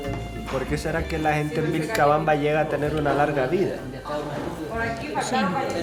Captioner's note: speaking foreign language